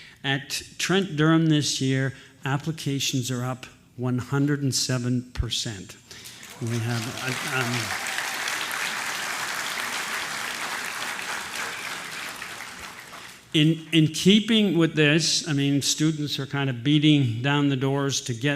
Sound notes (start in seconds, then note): 8.6 applause